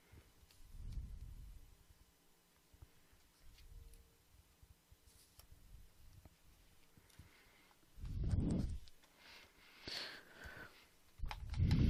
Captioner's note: no audio until 13.0